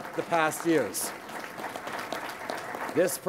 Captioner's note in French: Applaudissements